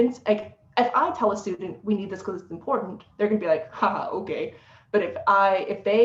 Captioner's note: sarcastic voice